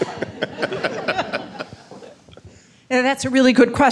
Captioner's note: laughing